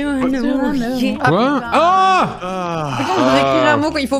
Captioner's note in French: JDG soupire